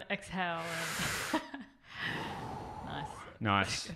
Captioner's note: takes deep breath